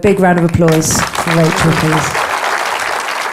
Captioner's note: audience applauding